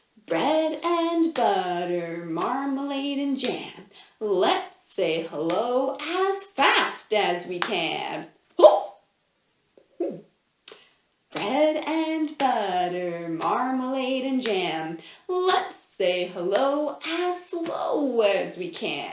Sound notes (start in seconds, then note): 11.4 chanting